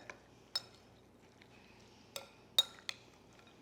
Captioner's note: spoon clinking